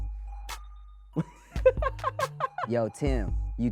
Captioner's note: laughs